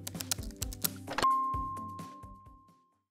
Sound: keyboard clicking; logo dings

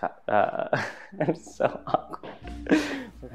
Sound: laughs; groans

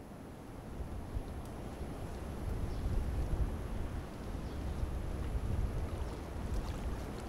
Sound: wind; birds chirping; ocean surf

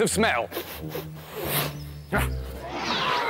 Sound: super Sniff!

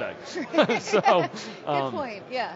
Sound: laughs

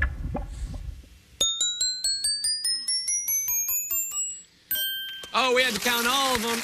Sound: dinging

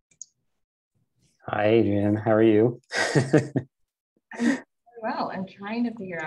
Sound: chuckling

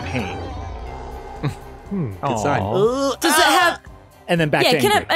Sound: makes bed pain noises

